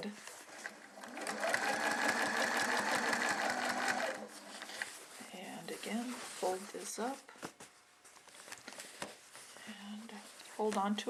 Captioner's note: sewing machine sounds